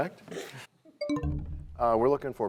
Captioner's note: bell chimes, time expires